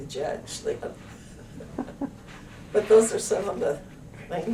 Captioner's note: laughter